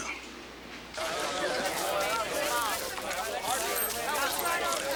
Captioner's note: townsfolk chatter